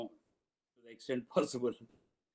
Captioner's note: speaks in Tamil – not transcribed